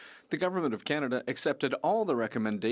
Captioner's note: speaking French